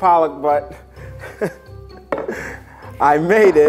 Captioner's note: laughing